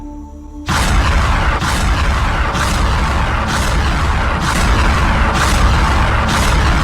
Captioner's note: somber music; bombs whooshing